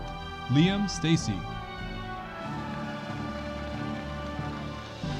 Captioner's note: audience applauding